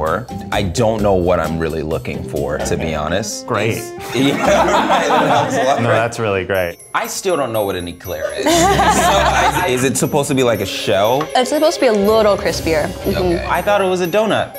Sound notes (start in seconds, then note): 4.1 everybody laughs